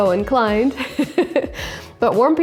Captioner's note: laughing